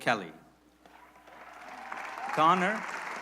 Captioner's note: applause